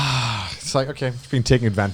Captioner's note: exhales